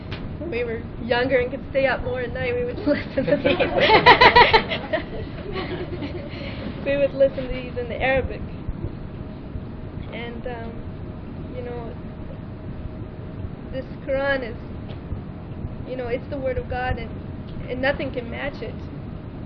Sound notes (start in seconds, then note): 2.8 laughing